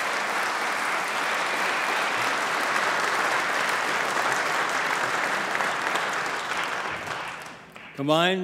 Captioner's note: applause